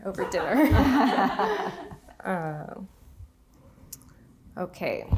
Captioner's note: audience laughing